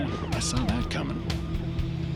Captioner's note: sirens wailing